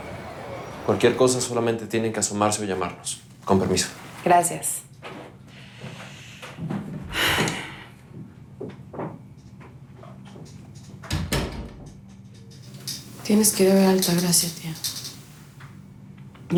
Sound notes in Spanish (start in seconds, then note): 11.0 Sonido al cerrar la puerta